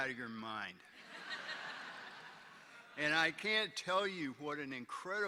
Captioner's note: laughter